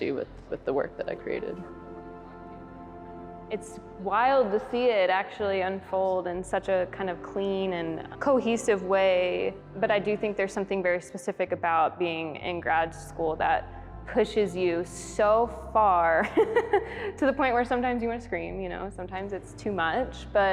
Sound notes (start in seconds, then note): 16.3 laughs heartily